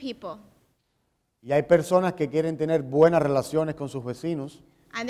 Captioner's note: speaking in Spanish